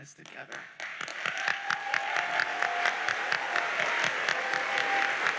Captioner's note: audience cheers and applauds